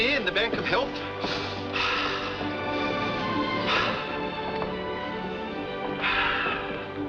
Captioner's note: deep breathing